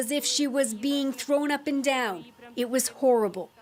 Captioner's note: foreign language